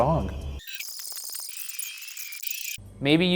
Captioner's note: electronic noise